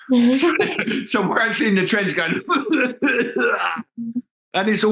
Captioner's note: coughing